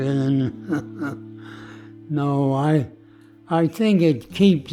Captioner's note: laughs